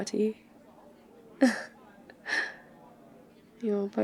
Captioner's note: exasperated laugh